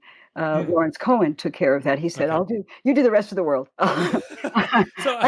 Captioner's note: chuckle